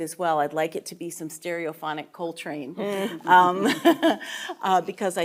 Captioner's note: chuckling